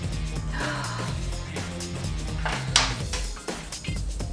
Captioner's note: gasps